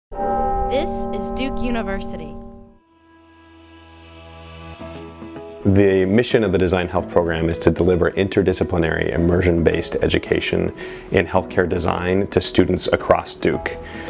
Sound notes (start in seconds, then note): 0.1 bell ringing; 3.2 upbeat music